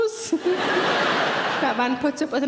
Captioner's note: laughing